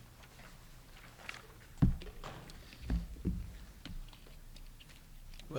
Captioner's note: page flapping